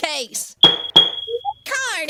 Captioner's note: gavel slam